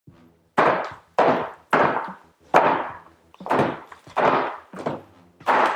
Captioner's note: Arms smacking a Wing Chun dummy